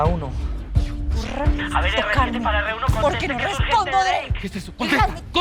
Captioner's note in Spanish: Voz en la radio